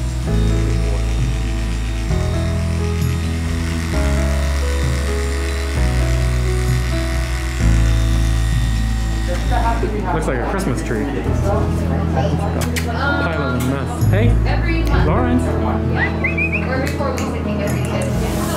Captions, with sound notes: Good boy. Looks like a Christmas tree. [Kissing sounds] Hey. Lawrence. [Whistles] [Snaps] [Tongue clicks]